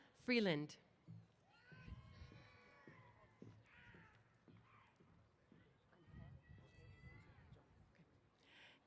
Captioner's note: cheers